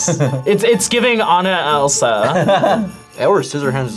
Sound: laughs

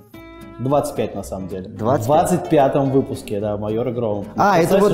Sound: voice-over

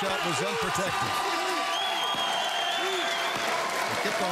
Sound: cheering

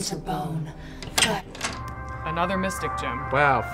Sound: door opens

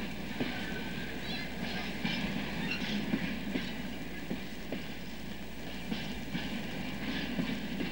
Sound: sound of a train passing in the background

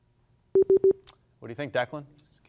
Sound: beeping

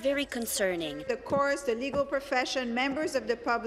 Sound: speaking french

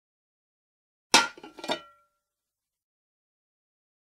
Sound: sound of bowl

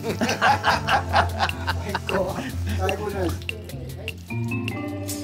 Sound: everyone laughing; laid back music

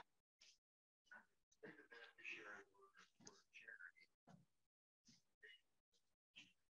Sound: participant faintly speaking

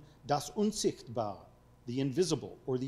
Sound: speaking foreign language

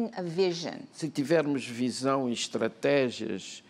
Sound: speaking portuguese

